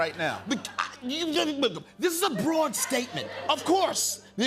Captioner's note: stammering